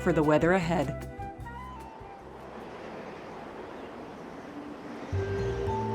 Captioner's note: wind noises